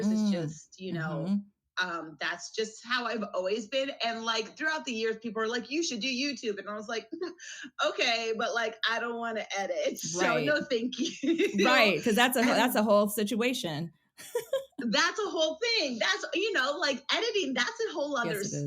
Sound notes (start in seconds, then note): 10.1 laughs; 14.2 laughs